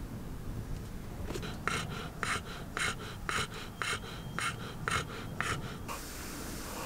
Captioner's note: Caesar is panting heavily